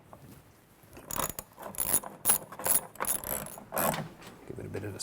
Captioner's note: ratcheting